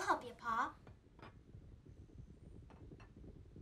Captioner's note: galloping